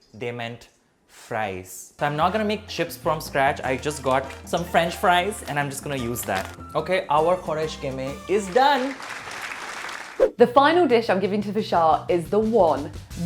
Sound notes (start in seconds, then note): 8.1 audience applauds